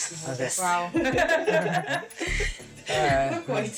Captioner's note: all laughing